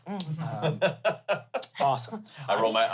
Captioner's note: laughs